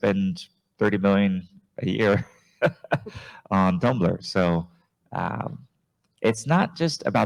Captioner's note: chuckles